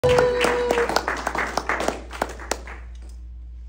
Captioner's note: clapping from crowd